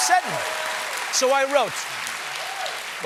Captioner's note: cheers and applause